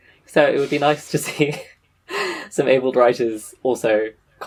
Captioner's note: laughing; laughs